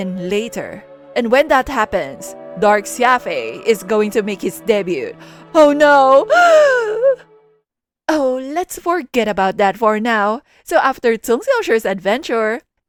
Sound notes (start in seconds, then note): 6.2 sob